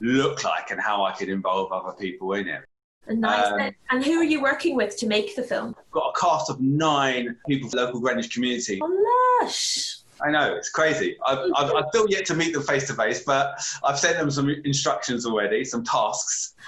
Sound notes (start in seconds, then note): 8.8 exclaims